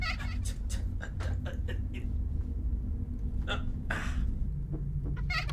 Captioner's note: grunting as he attempts to scratch his eyebrow